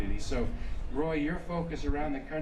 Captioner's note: none